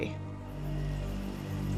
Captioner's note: insects chirping